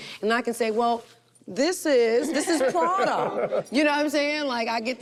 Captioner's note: group laughs